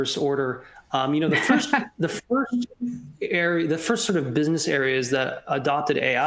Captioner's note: laughter